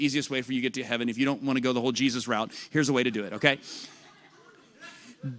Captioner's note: laughter